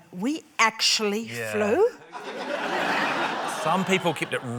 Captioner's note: laughter